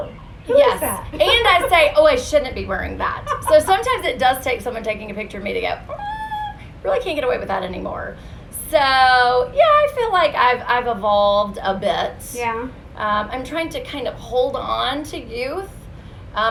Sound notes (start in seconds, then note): 3.1 laughs